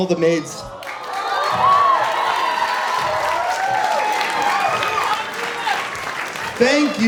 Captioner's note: cheering